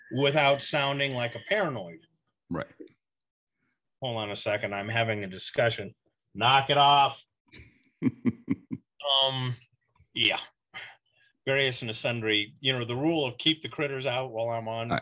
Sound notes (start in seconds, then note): 8.0 laughs